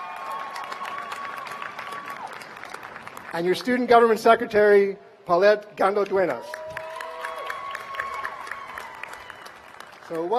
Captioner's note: cheers and applause